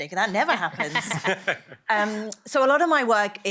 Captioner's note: laughter